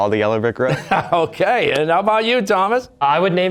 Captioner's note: chuckling